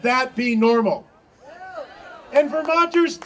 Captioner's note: audience cheering